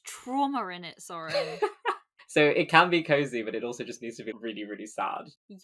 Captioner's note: laughs